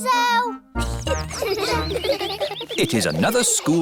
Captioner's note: children giggling